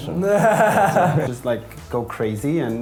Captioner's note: laughs